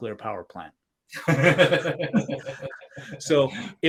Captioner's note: both laughing